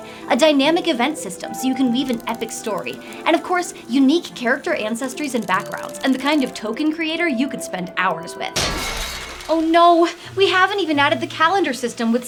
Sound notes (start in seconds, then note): 8.6 mechanical clanking noise